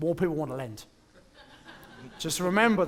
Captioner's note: laughter